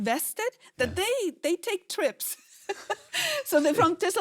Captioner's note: laughs